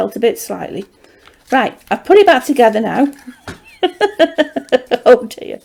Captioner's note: laughs